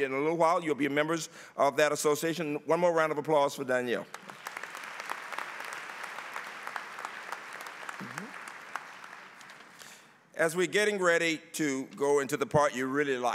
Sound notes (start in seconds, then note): 4.0 applause